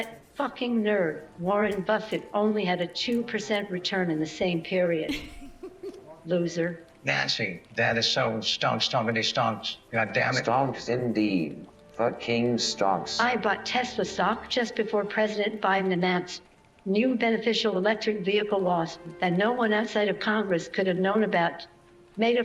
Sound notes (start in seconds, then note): 5.0 nancy laughs